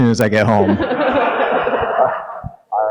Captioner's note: audience laughing